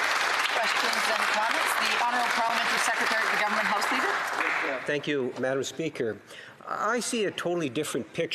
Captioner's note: applause